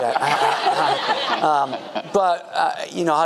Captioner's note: audience laughing